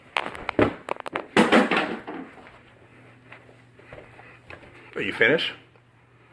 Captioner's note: objects clatter